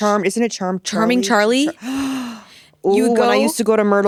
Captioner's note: gasping